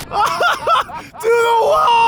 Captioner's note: laughing